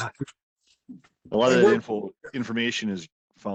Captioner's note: laughs